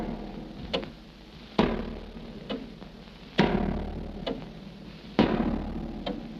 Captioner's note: hammer bangs reverberate